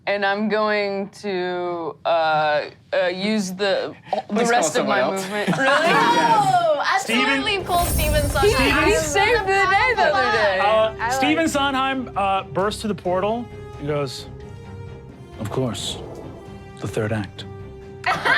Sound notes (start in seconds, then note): 5.5 all laugh